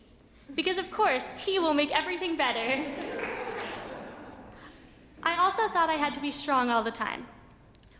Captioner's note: laughter in audience